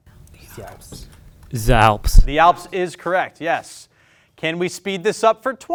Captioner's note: none